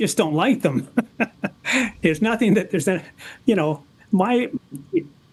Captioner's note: laughs